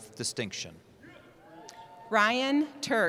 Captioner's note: cheering